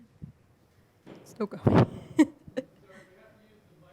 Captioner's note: laughs